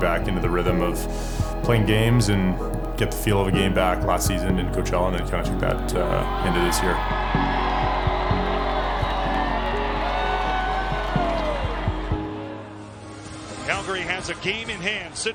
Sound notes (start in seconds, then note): 8.5 crowd cheering